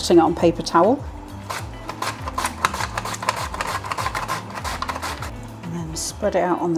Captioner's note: slicing thunk